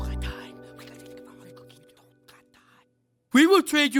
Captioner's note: whispering